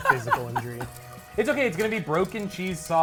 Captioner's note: laughs